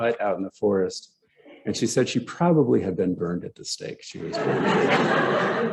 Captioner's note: laughter